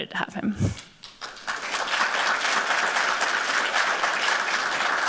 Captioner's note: applause